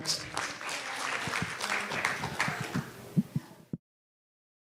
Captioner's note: audience applause